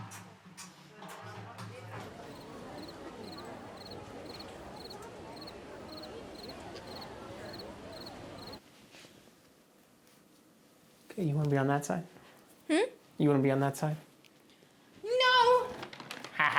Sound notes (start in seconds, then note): 2.2 crickets chirping